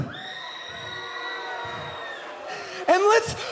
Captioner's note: cheers and boos